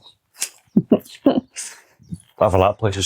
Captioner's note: laughs